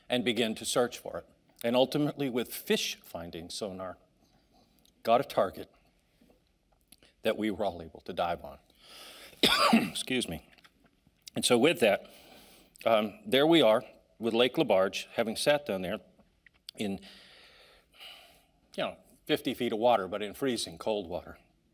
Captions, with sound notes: and begin to search for it. And ultimately with fish-findings sonar, got a target that we were all able to dive on, (coughs) excuse me. And so with that, there we are with Lake Lebarge, having sat down there (sighs) in, you know, 50 feet of water but in freezing cold water.